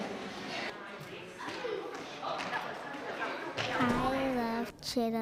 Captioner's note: group talking